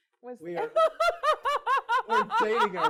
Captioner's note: laughs